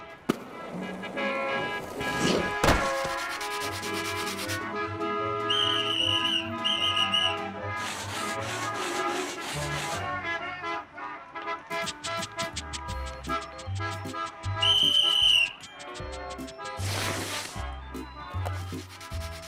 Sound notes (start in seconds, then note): 0.7 horns honking; 5.4 blows whistle; 7.2 horns honking; 13.0 blows whistle